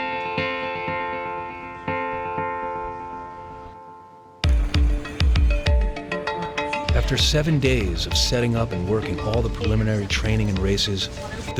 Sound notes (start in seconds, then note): 4.4 energetic music; 6.7 voiceover